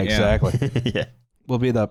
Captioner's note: chuckles